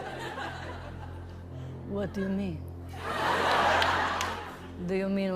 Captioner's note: accented lisping